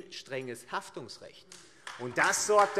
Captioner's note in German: Beifall AfD